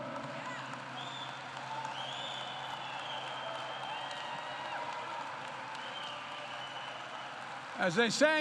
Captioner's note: applause